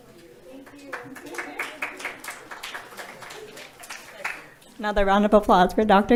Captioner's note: audience applauding